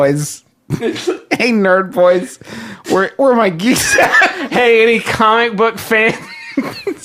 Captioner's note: laughter